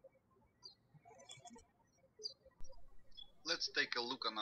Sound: birds chirping

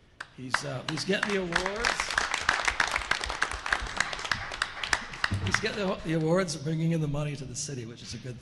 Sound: applause

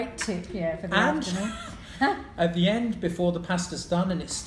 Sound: laughs

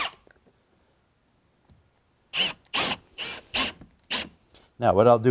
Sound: screw-gun whirs

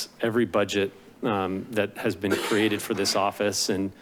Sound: coughing

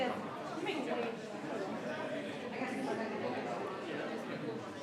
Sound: people chattering

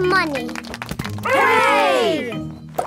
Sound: crowd applauding

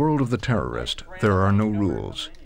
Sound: voiceover

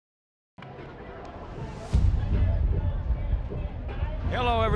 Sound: campus chatter

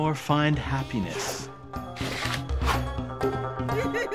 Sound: giggling

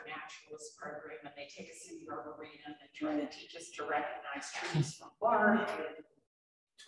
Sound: speaks faintly

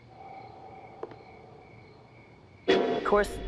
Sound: tap

